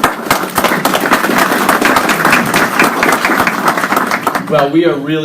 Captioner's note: applause